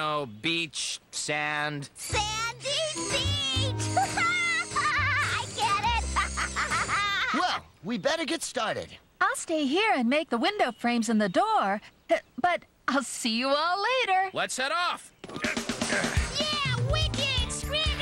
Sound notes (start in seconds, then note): 3.7 laughing